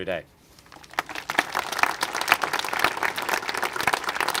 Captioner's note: congregation applaud